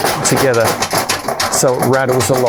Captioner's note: bag rattling